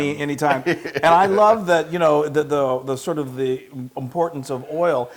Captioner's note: laugh